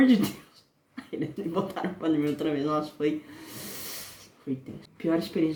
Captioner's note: laughing